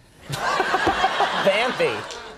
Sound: laughter

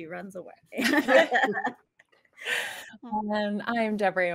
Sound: group laughs

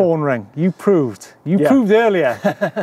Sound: laughing

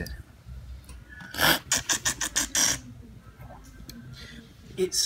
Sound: slurping

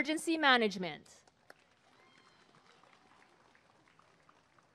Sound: applause and cheering

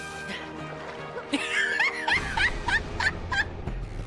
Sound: laughter

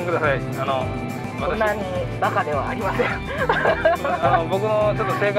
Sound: laughs

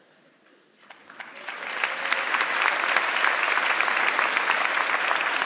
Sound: audience clapping

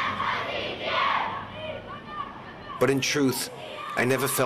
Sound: people chanting

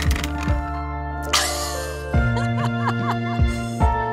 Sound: laughs; slow rhythmic music

